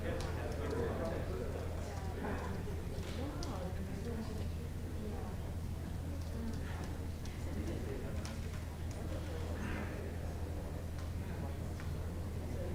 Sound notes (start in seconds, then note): 0.0 indistinct chatter